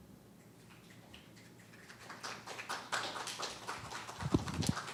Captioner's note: applause